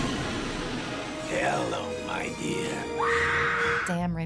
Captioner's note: Mary Jane screams